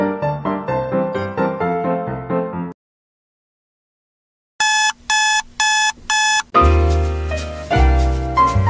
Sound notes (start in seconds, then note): 4.6 beep beep!!!!!; 6.6 sad Music